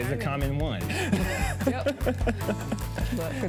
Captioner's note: laughs